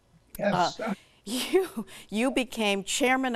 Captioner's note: chuckles